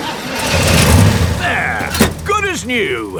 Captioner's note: engine starts